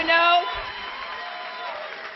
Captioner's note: applause